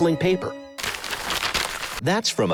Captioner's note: crinkling paper